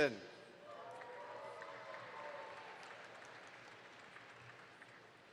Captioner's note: audience applauds